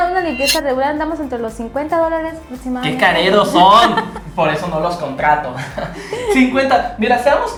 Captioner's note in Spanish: risas